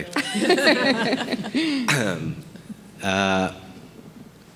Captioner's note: group laughing